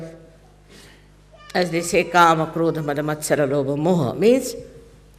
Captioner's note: Hindi words